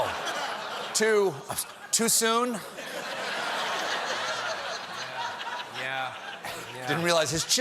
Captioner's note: laughter